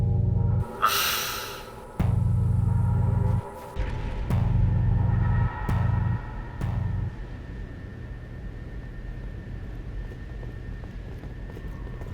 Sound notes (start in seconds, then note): 1.2 in a disapproving tone